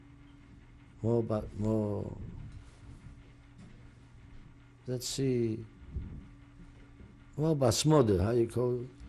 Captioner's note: pauses for 3 seconds; non-english